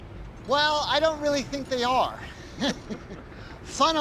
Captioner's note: laughs